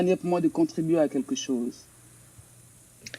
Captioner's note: speaks in French